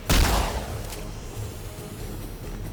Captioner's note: gun firing